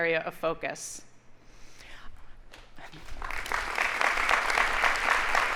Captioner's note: audience applauding